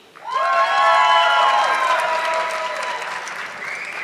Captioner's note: audience clapping